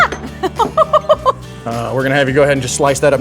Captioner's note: laughing